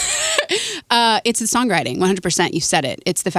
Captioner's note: laughing